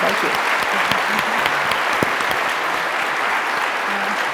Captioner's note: applause